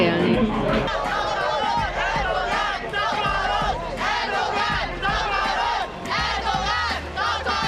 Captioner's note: Crowd shouting: ‘get the hell out, Erdogan!’